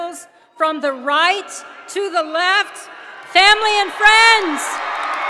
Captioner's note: cheers